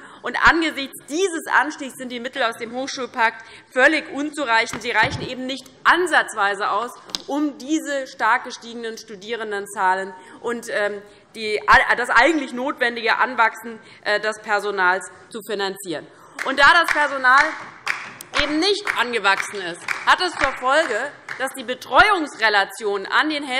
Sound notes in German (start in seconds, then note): 16.8 Beifall DIE LINKE